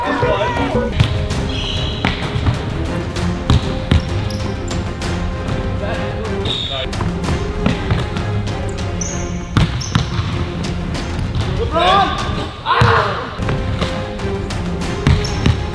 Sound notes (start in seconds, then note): 0.1 upbeat orchestral music; 1.6 ball bounces; 2.4 sneaker screech; 3.3 upbeat orchestral music; 4.6 ball bounces; 4.6 sneakers screech; 13.3 upbeat orchestral music; 15.5 ball bounces